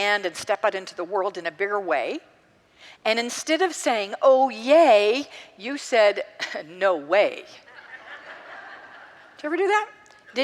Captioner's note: congregants laugh